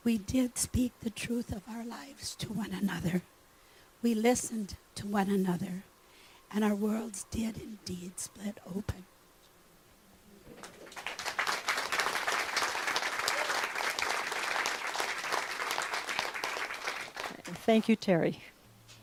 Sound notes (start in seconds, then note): 10.6 clapping